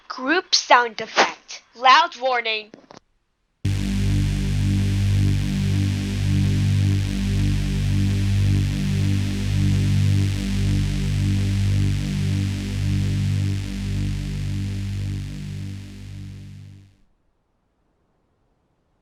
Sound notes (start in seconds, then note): 2.1 loud warning; 3.7 group sound effect